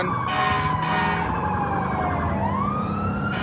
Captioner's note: emt sirens blaring